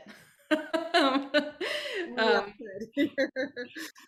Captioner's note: laughs